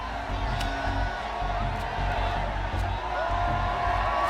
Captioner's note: crowd cheering